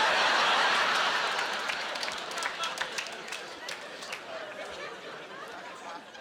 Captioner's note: laughing